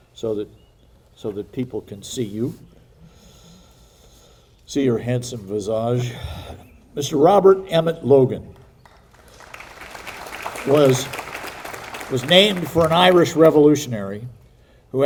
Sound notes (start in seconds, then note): 8.6 audience applauding